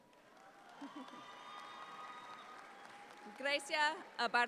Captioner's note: audience applauds